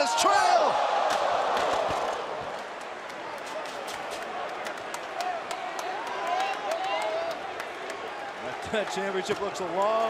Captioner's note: crowd chatter